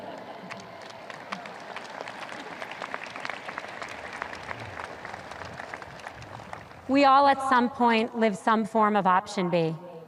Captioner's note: audience cheers